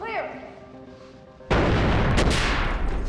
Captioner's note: boom